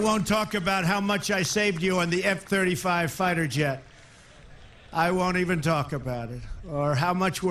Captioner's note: applause